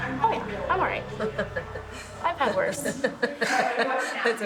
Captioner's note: laughs